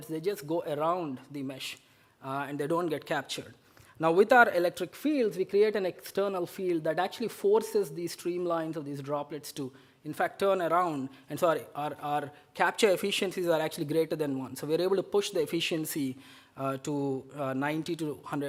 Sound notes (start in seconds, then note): none